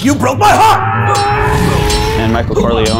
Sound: swords clashing

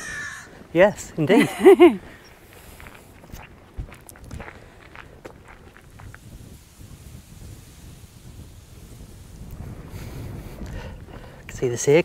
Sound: crow caws

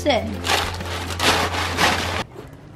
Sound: crackles

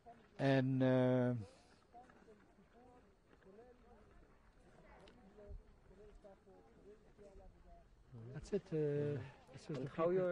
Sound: pauses for 7 seconds

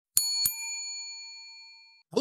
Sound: bell dings

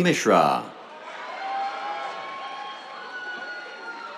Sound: cheers, applause

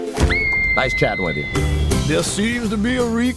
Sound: screams

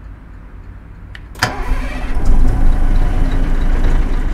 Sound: starting the engine

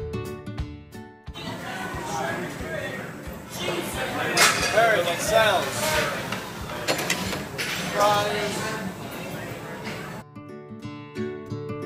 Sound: kitchen sounds

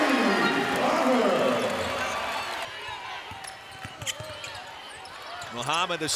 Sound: game noise

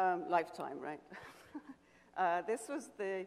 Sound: chuckles

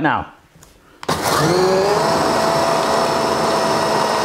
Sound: food processor whirs

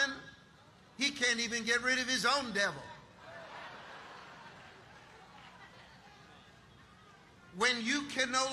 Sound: audience laughing

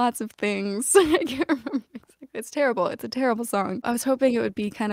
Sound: laughter

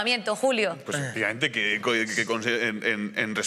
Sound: he stammers

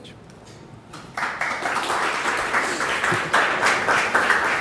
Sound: applause

